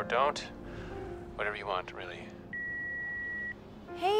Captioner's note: line beeps